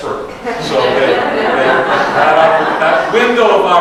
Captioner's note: audience laughs